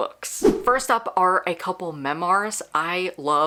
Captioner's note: whoosh